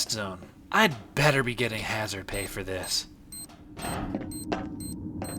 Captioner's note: bomb starts beeping; beeping accelerates